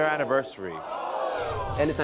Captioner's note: audience gasps